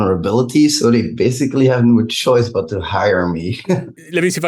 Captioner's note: chuckles